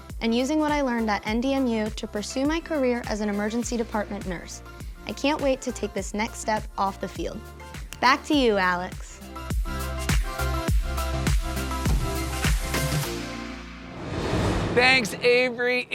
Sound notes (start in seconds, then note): 8.7 fingers clicking; 9.3 upbeat music